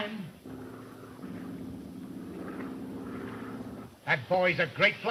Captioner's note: plane engine rumbling